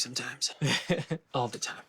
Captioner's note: laughs